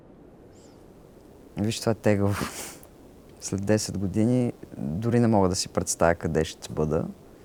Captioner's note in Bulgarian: смее се